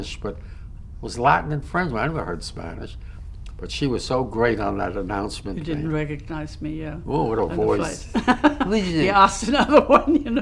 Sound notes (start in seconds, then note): 7.2 laughs